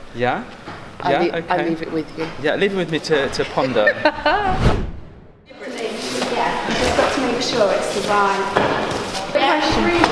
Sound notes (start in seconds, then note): 3.5 chuckling; 4.3 air whooshing